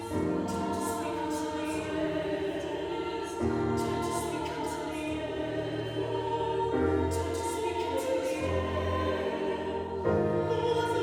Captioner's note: repeating, breathy but urgent